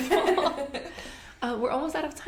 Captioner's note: laughter